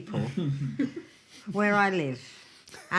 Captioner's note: laughing